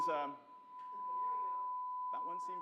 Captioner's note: high pitched tone